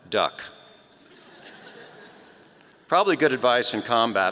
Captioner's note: audience laughing